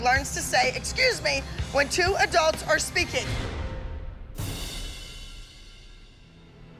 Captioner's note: none